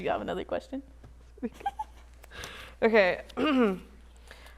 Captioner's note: chuckling